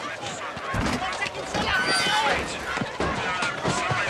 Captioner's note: indistinct voice over radio